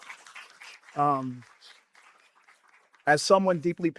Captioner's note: applause